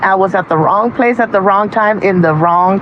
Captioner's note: none